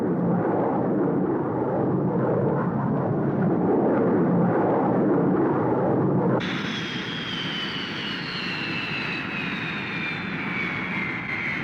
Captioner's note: jet engine noise